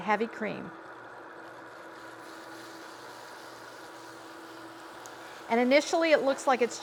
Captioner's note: whisk whirring; sauce sizzling